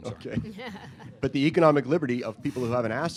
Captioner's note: laughter